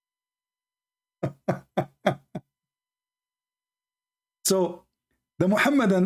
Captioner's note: Ketawa